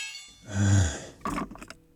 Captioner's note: sighs